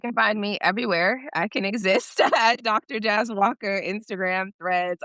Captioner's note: chuckles